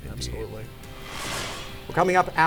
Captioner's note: whooshing